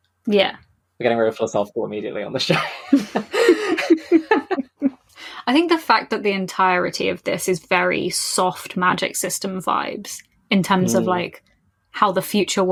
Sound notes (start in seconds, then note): 2.5 laughs